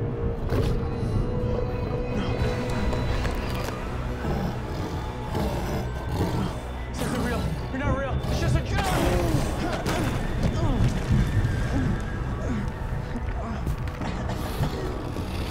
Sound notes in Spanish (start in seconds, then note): 4.1 Gruñido; 8.3 Gritos; 11.6 Gruñidos y gemidos